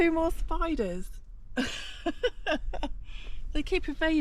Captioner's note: chuckles